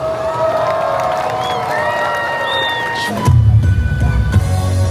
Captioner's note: audience applauding and cheering; upbeat music